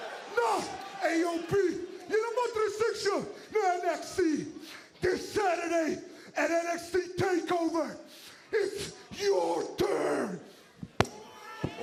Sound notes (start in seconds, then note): 0.0 speaking foreign language